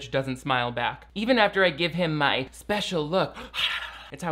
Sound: tongue fluttering

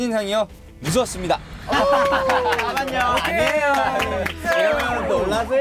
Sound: applauding like seals🤣🤣🤣

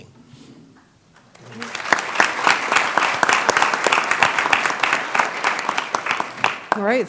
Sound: applause

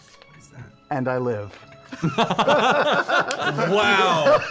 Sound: laughter

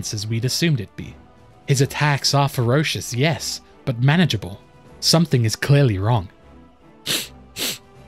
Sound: sniff

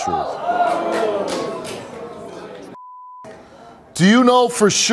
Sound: audience exclaims

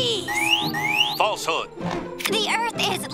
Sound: alarm

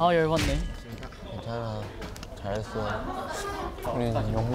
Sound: patting

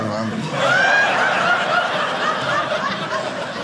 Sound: audience laughing

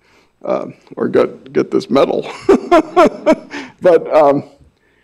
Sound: laughs

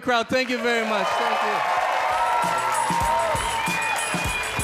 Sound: audience cheer and applaud; upbeat music

